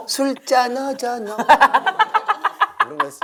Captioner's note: laughing